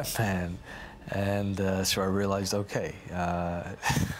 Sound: laughs

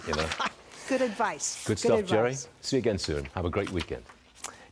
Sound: laughter

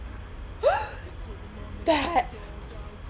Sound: gasp

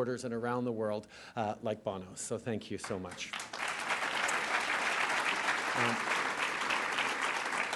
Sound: applause

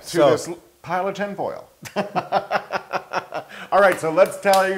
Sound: laugh

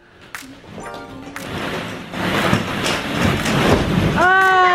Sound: balls crunching

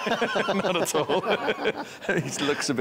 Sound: both laughing

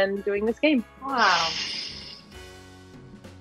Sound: Aubrey hisses; upbeat Christmas music

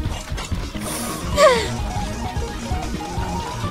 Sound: deep breath

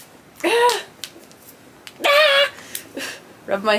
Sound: gentle yelling

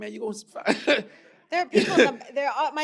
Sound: laughs

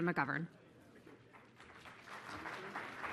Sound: applause

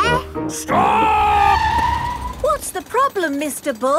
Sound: tires screeching

